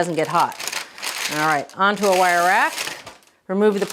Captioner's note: paper rustling